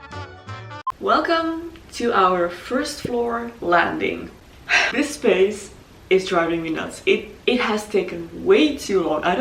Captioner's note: sigh